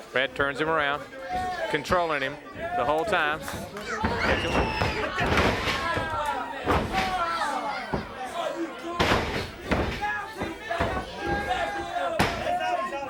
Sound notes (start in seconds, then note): 3.9 blows thudding; 4.3 body thudding; 9.0 hands thudding; 9.0 blows thudding